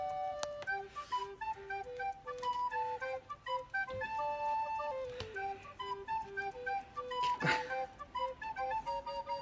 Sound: laughter

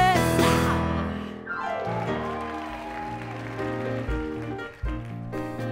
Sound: applause

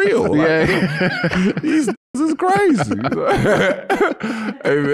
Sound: laughs

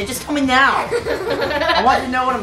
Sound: giggles

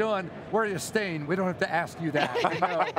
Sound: group chuckles

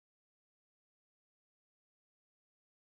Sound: none

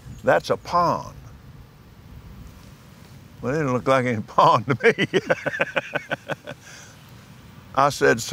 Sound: laughs

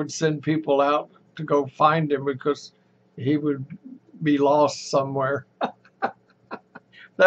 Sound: laughs

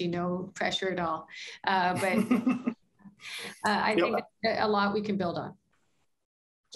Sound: laughter

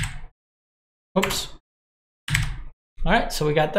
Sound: keyboard clicking

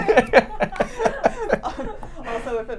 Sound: laughs

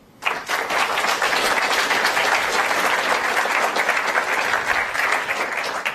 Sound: applause

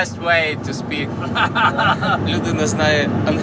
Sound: laughs loudly

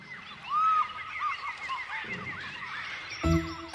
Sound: birds chirping

